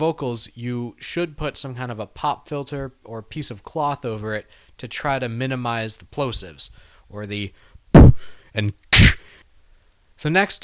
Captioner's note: plosive sounds